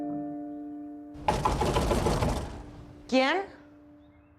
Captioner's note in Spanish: Toques en la puerta